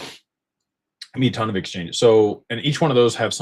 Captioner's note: snorts